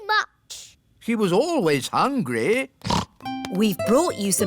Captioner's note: snorts